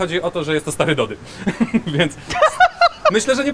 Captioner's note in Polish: śmiech